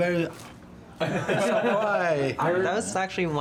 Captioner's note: group laughs